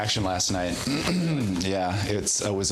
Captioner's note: clears throat